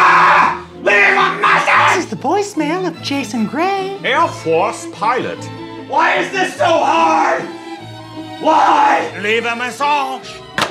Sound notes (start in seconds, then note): 0.1 yelling; 2.2 high female voice; 9.3 French accent